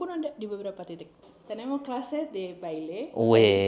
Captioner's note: Spanish